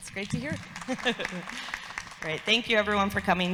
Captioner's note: audience applauds